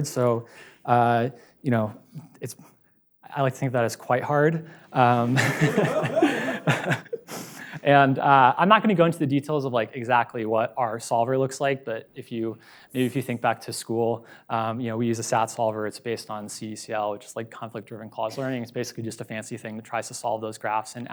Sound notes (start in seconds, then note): 5.0 laughs; 5.1 audience laughs